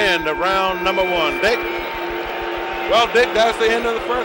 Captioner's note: bell sounds